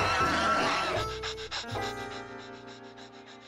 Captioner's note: panting